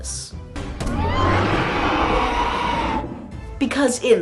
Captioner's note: dragon roaring